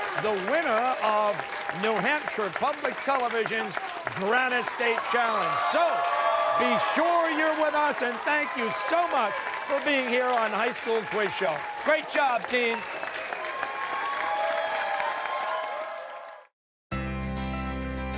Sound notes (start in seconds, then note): 13.7 cheers and applause